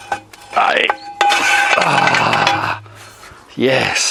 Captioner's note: banging